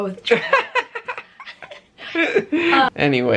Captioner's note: laughter